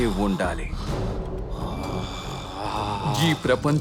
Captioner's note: growls